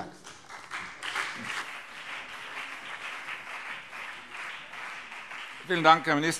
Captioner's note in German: Beifall BÜNDNIS 90/DIE GRÜNEN